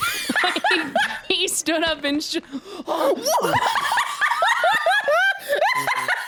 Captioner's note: both laugh; both gasp and laugh in shock; laughs hysterically